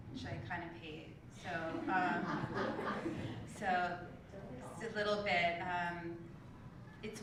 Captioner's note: laugh